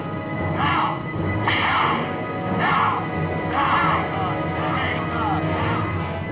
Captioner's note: whip cracks